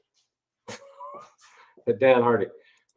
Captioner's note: chuckles